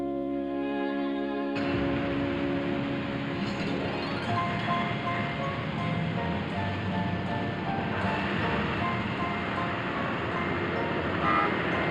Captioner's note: city street sounds